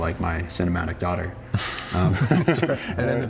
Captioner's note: both laugh